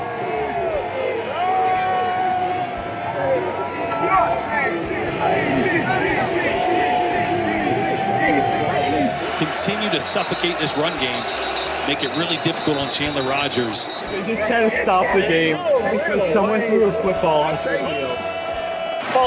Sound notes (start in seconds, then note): 4.9 ”DC” chants